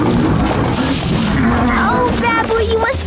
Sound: growling; growling, leaves rustling

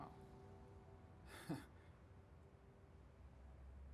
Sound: laughs

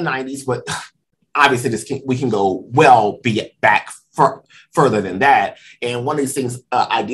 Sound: sigh

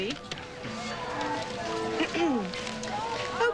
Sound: clears throat

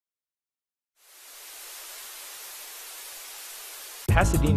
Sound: Static

